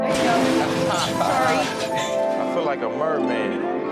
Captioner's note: laughter; strumming